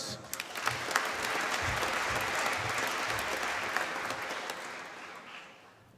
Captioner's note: applause